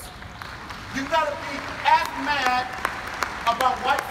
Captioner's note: audience applauding